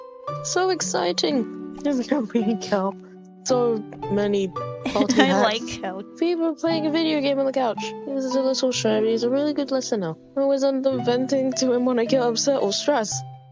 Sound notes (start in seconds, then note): 1.6 laughing; 4.9 laughs